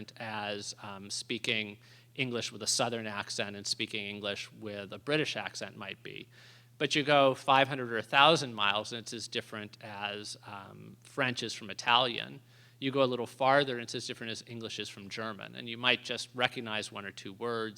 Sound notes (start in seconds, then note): none